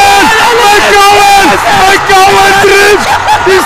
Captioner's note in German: lauter Jubel im Hintergrund